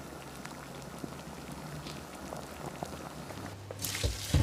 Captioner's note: water bubbling